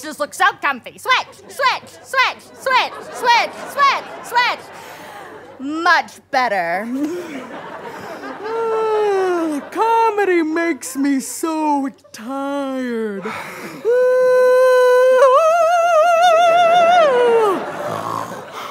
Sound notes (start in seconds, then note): 8.7 yawns